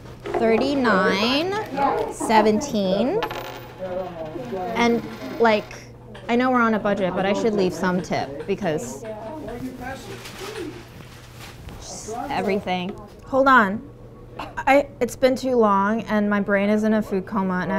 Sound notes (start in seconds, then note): 3.1 coins jingling